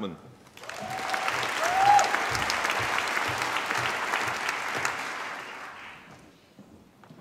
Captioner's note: applause